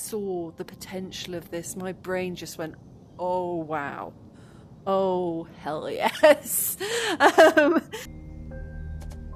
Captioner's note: laughing